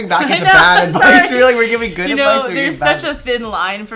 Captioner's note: laughs